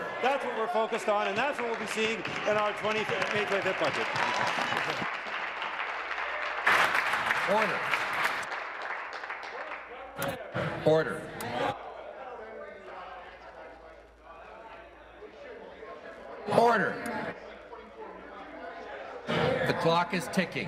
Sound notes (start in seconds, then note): 8.6 applause